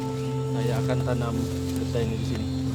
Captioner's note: indistinct chatter